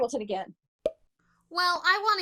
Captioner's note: pop